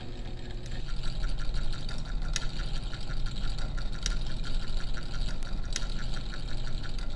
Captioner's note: flasher whirring & clicking rhythmically